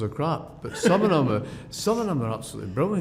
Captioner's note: laughter